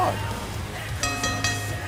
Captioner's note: bell ringing